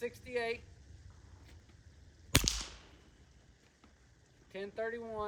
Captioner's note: gunshot